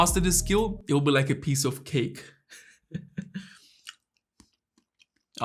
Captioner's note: chuckles